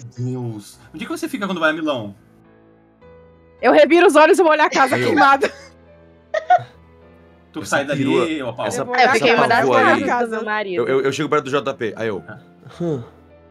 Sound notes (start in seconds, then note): 6.3 laughs